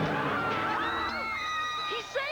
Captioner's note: yells